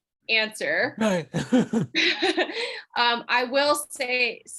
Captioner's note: laughs